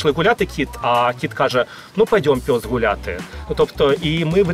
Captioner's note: speaking surzhik